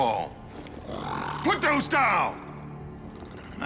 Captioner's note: grunting